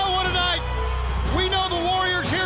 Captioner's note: crowd cheering